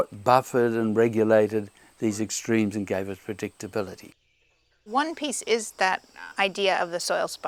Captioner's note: birds chirping